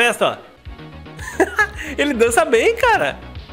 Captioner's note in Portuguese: risos